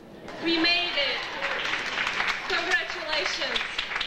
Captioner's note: audience applauding